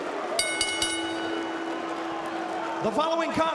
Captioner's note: crowd cheering; bell ringing